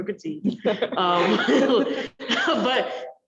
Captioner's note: all laugh